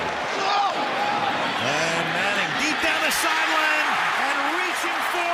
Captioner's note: cheering